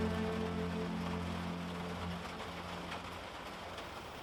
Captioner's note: rain pattering